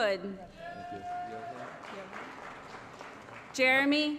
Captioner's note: applause